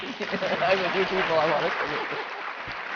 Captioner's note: applause